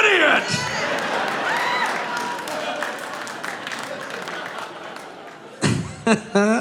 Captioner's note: audience laughing; audience applauding